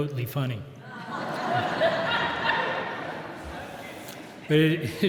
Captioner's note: audience laughs